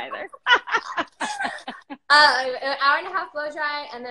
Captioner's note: both laughing